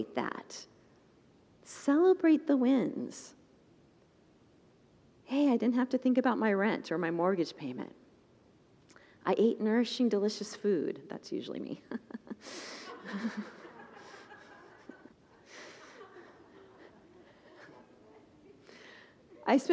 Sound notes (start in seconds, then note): 15.7 congregants laugh